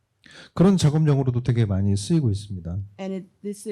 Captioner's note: speaking korean